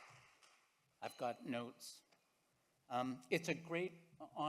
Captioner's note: audience clapping